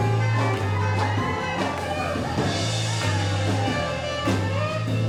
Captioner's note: audience cheers